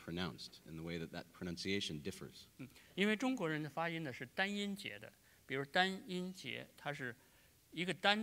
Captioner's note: speaking in Chinese